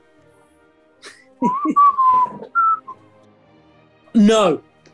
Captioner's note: giggling; whistling